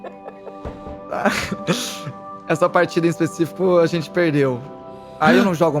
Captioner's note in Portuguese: risos